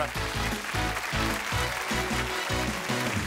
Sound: applause

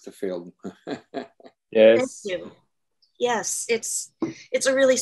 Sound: chuckles

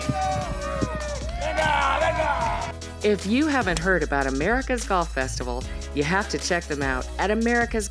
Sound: all cheering

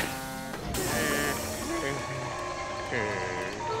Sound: groaning

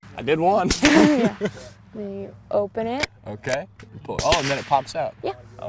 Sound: gunfire

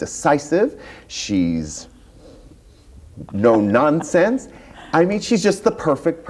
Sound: chuckles

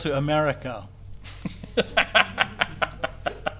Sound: laughs

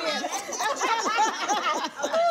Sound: laughing

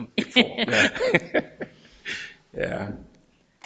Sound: board members laughing

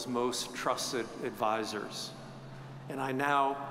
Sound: none

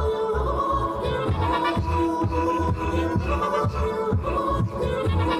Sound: beatboxing

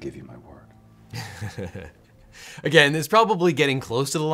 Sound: laughs

